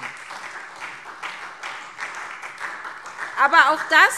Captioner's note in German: Beifall SPD